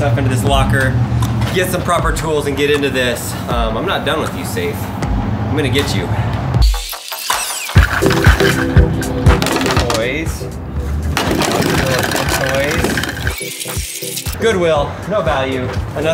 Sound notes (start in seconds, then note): 6.6 upbeat music; 11.1 toys rattling